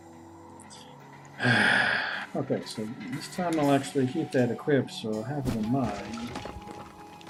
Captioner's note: sighs